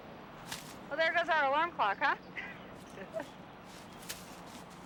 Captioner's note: laughs